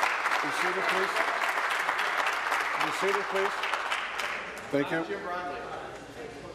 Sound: applause

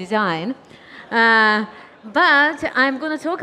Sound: audience laughing

